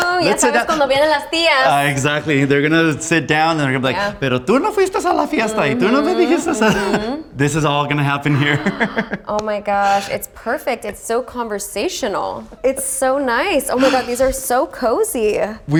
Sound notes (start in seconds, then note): 0.1 speaks in foreign language; 4.5 speaks in foreign language; 8.0 laughing